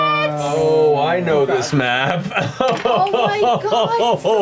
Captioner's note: laughs